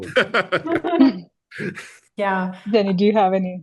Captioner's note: panelists laughing